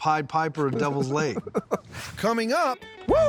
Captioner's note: laughing